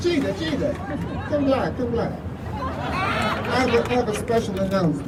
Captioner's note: crowd laughing